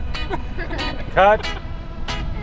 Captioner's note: children laughing